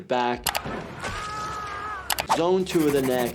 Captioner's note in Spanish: persona gritando